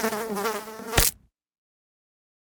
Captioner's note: fly buzzing; fly splatting